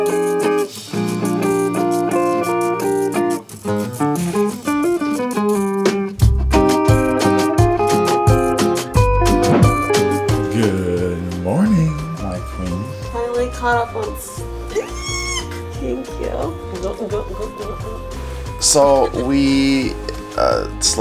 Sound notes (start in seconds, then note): 17.0 makes gulping noises